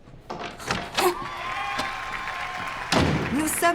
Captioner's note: crowd cheering